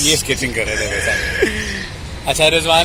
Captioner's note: laughing